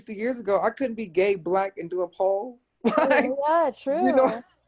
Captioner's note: chuckles